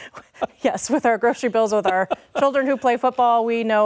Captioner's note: laughter